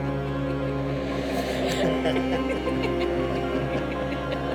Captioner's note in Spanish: risita de adolescente